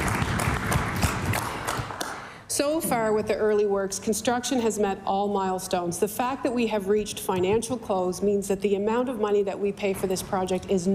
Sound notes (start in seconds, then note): 3.1 applause